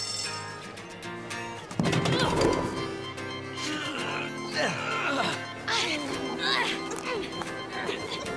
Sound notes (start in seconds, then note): 3.6 grunting